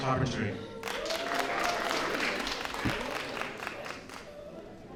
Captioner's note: applause